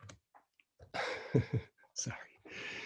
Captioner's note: chuckles